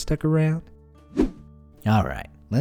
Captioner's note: air whooshing